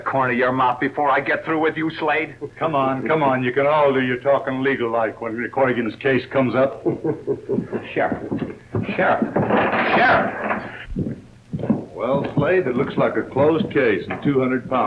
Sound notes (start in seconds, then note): 6.7 Slade laughs; 9.5 crash